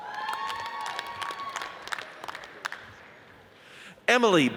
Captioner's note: audience cheers and applauds